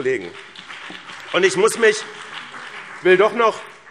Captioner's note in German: Beifall BÜNDNIS 90/DIE GRÜNEN und vereinzelt CDU